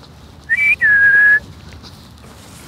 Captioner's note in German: Pfeifen